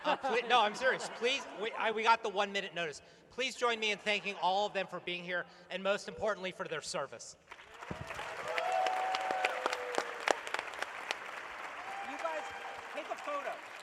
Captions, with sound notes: No, I'm serious. We got the one-minute notice. Please join me in thanking all of them for being here, and most importantly, for their service. [applause] You guys, take a photo.